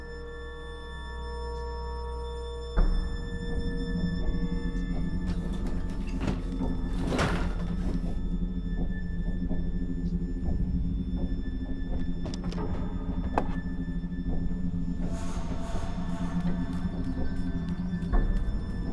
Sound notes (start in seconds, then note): 6.8 door clatters open; 15.7 suspenseful music